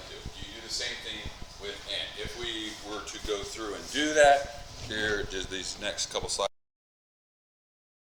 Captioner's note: mic cuts out